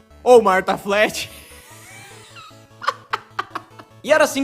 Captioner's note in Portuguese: mais risada no fundo